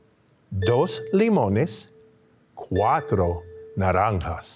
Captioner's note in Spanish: hablando en español